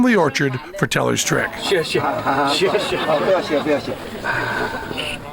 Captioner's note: non-english speech